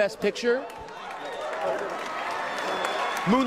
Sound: cheering and applause

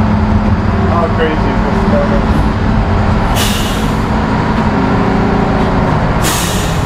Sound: boat drowns out speaker

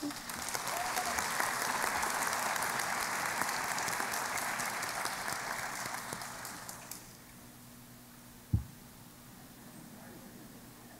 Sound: applause

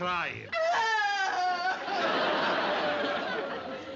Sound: aunt sophie crying

